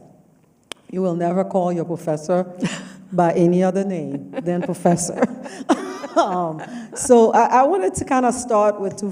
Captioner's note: laughs